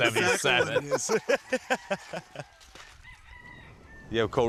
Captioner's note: laughing